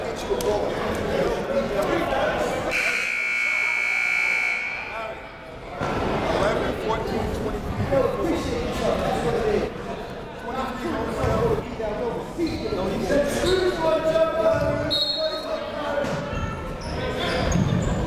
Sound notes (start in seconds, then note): 2.7 buzzer ringing; 14.6 shouting; 14.9 whistle blowing